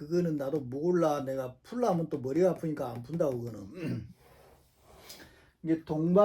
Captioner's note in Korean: 목을 가다듬음